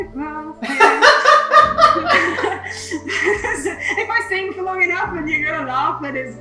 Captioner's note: laughs